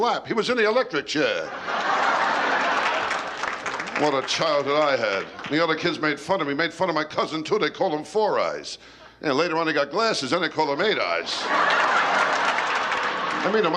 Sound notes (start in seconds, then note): 1.4 laughter; 11.2 laughter